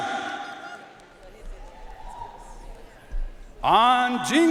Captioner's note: audience cheering and applauding